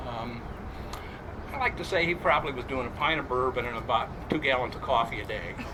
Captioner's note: crowd chuckles